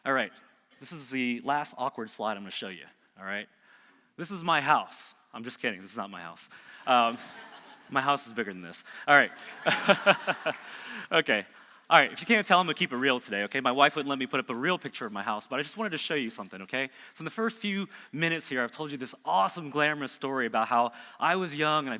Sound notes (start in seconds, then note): 7.0 audience laughing; 9.4 laughing